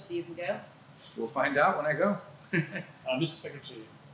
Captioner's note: laughter